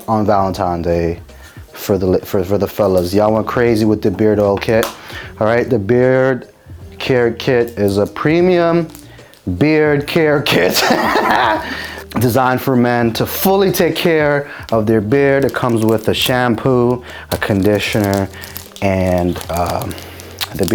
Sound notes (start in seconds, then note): 10.7 laughing